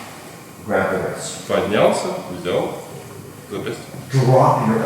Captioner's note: speaking in a foreign language